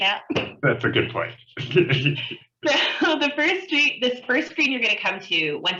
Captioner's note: chuckle